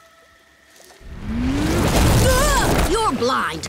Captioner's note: grunting